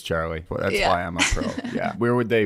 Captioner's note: laughing